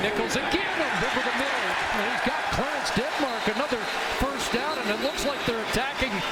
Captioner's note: applause